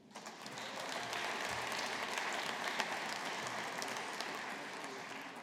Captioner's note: audience applauding